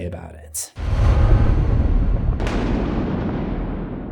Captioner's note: impact